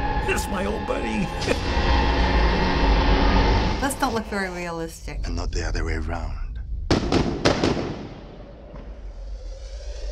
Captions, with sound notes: It's my old buddy! Those don't look very realistic. And not the other way around. (explosions)